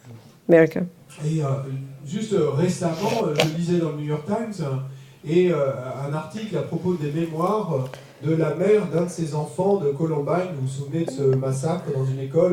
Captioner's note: French